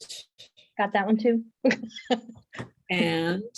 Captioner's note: giggled